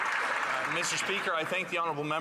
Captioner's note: some Applause